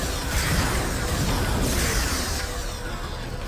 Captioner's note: explosion; tense music